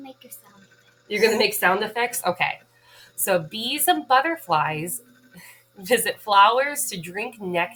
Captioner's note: Mimzy buzzing